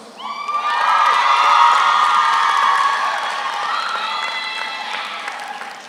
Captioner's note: audience cheers; audience applauds